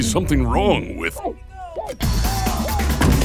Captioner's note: muffled shouting; uptempo electronic music